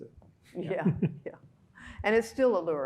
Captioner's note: laughing